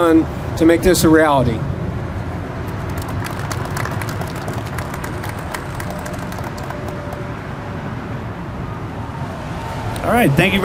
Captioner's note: clapping